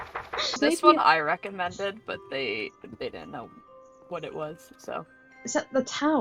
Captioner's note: swig